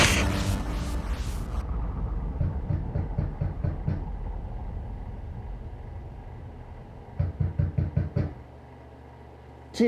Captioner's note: knocking on door